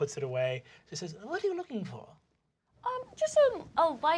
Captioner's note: elderly, high-pitched voice